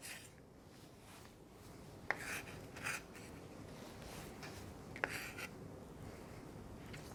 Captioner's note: knife scrapes